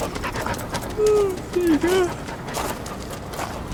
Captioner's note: dog panting; yawning